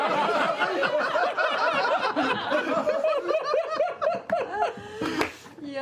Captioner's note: laughter